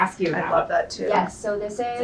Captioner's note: woman's Voice